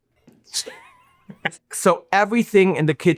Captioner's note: laughing